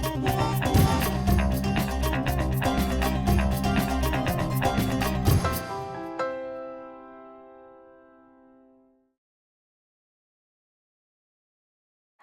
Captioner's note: cheers and applause